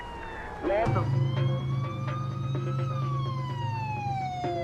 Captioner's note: siren wailing